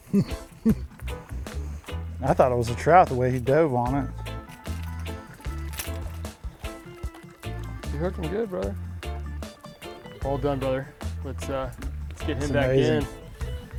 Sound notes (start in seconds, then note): 0.0 laughing; 5.8 lure jingling